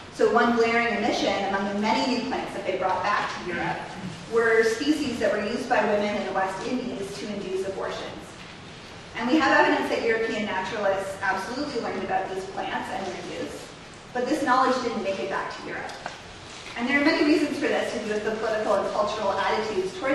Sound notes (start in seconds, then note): none